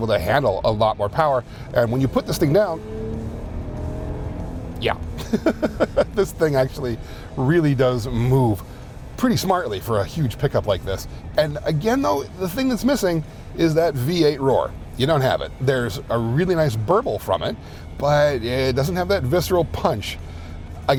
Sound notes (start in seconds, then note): 5.2 laughs